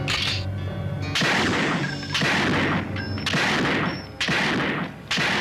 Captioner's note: gunshots